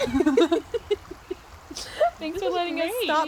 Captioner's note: laughter